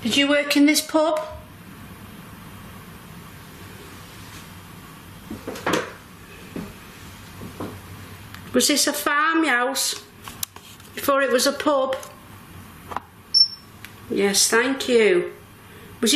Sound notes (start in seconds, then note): 13.3 metre beeps